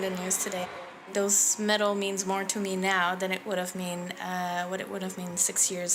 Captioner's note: cheers and Applause